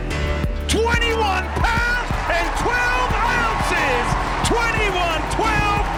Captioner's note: cheering